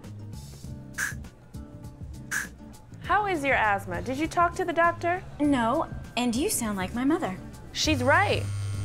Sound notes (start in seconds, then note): 1.0 inhaler puffs; 8.3 cellphone buzzes